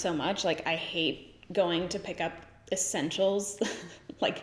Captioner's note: giggles